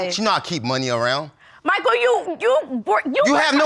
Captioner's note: stammering